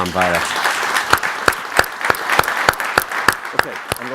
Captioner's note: crowd applauding